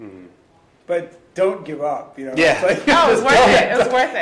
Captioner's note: laughing